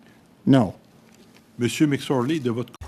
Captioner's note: speaking french